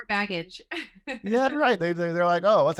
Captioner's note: laughter